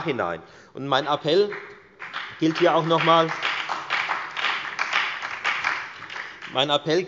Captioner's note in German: Beifall bei der FDP, der SPD und der LINKEN